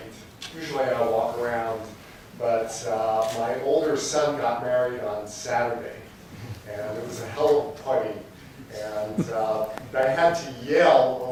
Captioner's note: laughter